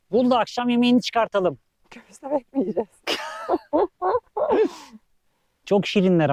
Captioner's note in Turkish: kahkaha